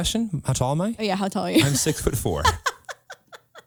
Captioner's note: laughs